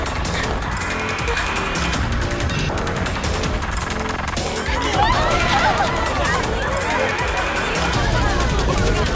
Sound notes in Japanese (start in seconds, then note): 4.5 客たちの悲鳴